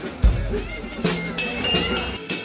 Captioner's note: ding